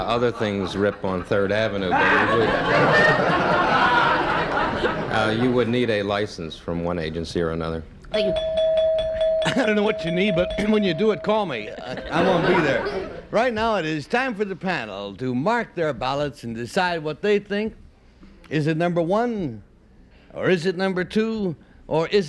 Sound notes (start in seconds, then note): 4.2 laughter; 8.1 bell ring